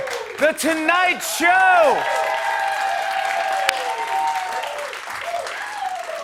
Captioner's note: cheers and applause